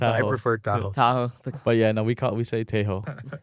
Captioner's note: laughs